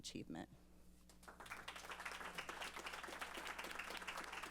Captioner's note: applause